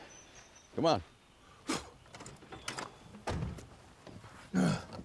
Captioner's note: solomon spits, doors open; solomon groans, casey laughs